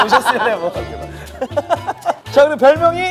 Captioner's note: laughing